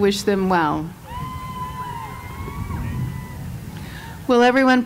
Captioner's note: cheers